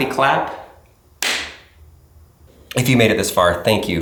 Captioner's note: loud clap